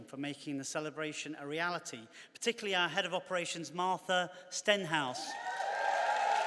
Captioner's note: cheers and applause